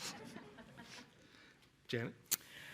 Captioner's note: laughter